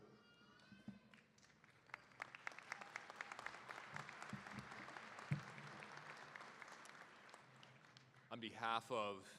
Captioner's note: cheering